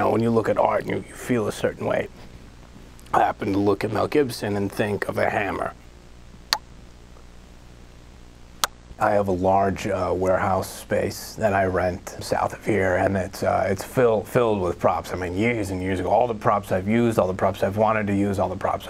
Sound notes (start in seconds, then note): 6.0 imitates lips smooching